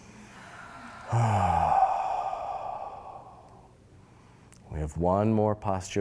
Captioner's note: loud exhaling